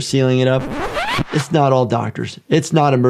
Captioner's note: record scratches